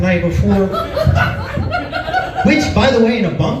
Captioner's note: laughs